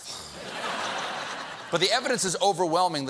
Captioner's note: laughter